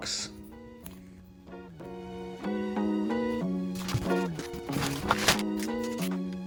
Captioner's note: paper rustling; upbeat music